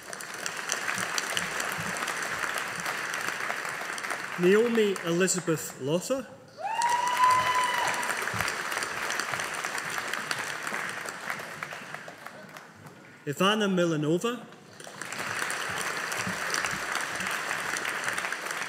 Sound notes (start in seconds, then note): 0.0 audience applauding; 14.7 audience applauding